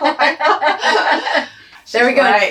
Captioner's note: laughs